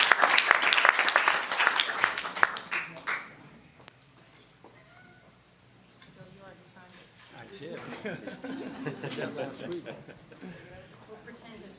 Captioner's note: applause